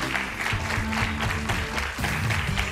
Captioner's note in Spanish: aplausos